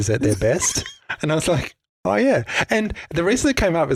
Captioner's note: both laughing